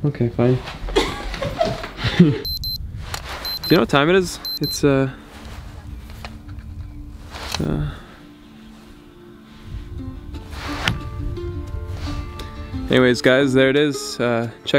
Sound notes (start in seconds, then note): 0.9 giggling; 3.4 phone beeping; 8.6 soft instrumental music